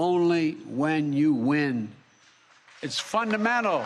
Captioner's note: applause